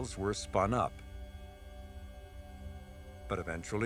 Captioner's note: wheels buzzing